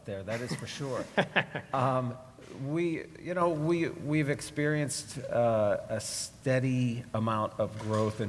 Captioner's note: laugh